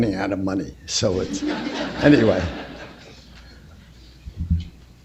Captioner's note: laughter